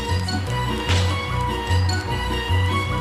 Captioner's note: gunshot